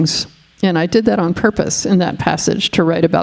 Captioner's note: none